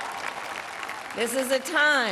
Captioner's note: cheering